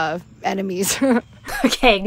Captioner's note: laughs